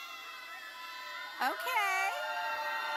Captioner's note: audience cheering and applauding